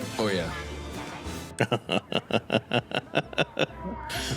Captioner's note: laughing